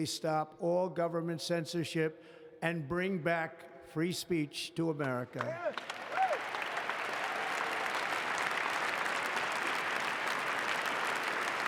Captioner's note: applause